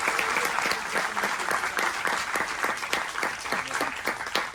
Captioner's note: clapping